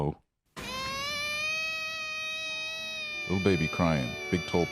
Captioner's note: little girl crying